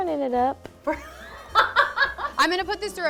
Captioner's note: laughing